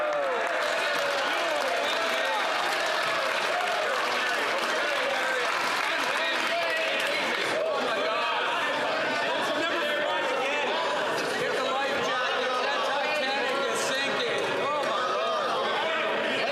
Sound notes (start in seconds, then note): 4.9 some Applause